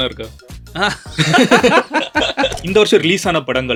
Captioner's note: group laughter